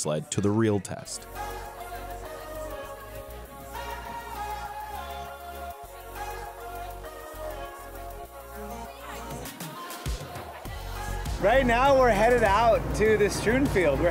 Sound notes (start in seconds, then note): 2.1 students talking; 2.1 upbeat music